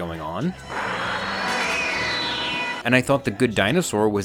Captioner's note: dinosaur screeching